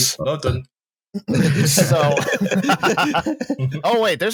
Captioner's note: laughter